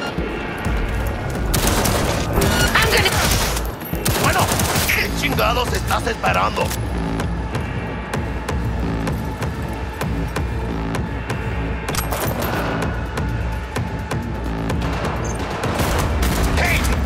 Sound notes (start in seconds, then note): 1.4 dramatic music; 5.3 speaking in foreign language